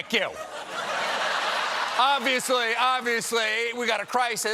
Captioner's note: laughter